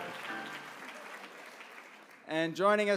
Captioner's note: applause